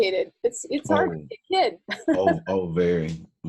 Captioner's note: laughs